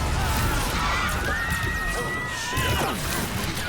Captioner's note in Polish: wrzask ôd ludzi i płacz ôd dziecia